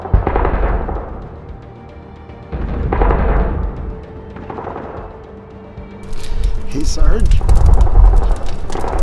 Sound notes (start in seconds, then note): 2.5 more Gun Fire